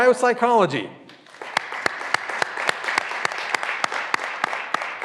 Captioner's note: graduands applauding